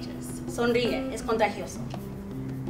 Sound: speaks Spanish

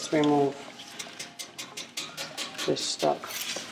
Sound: banging on stalk

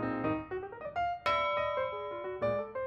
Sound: ding

